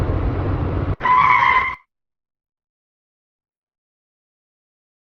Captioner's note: screeching